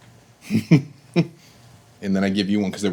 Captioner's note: laughing